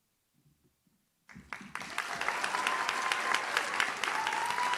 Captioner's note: audience cheers